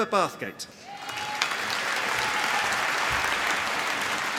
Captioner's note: applause